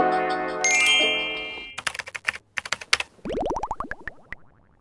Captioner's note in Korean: 종소리